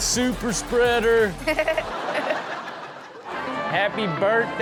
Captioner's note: Chanel and audience laugh